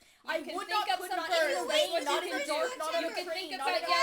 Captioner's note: everyone talking